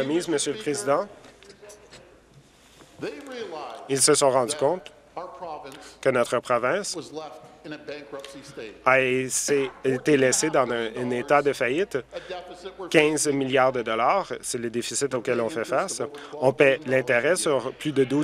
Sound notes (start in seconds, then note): none